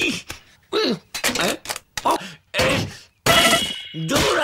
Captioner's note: sounds of frustration